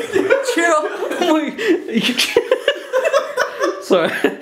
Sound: laughing

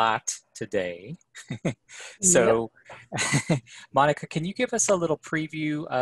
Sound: laughter

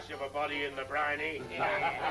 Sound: laughing

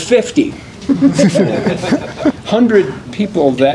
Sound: laughter

